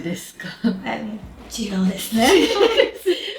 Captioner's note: laughs